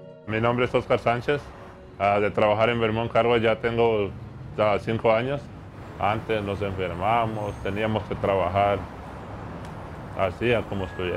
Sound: speaking Native Language

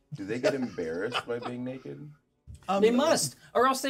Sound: speaker laughs

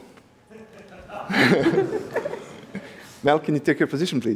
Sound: laughter

